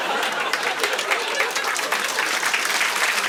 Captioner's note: applause